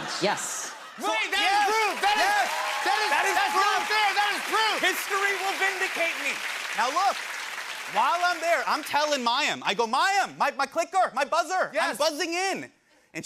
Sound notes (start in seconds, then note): 5.8 cheers and applause